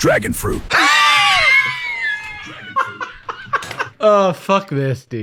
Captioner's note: wheezing laughter